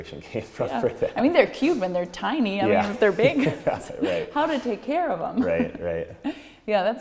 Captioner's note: lacht